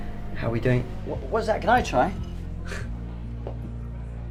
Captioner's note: scoffs